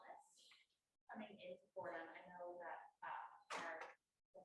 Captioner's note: voice muffling